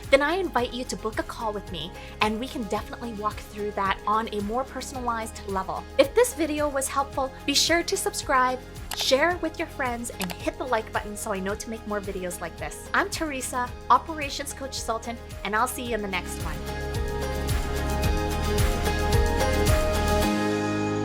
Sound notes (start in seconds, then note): 10.1 mouse clicking; 17.1 upbeat instrumental music